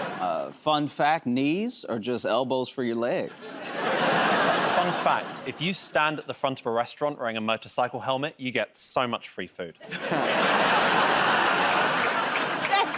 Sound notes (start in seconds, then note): 0.0 laughter; 3.3 laughter; 9.9 laughter and applause